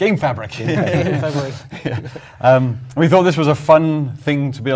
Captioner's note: laugh